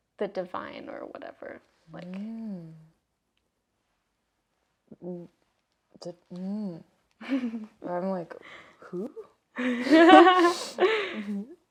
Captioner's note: laugh